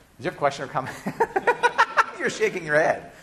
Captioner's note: professor laughing